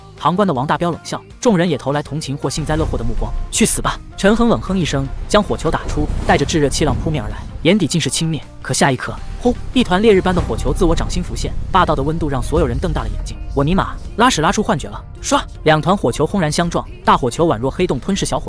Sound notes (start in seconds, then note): 15.6 whoosh !